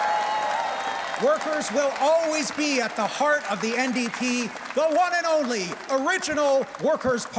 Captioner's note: cheers and Applause